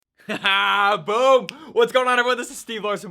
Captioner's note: laughs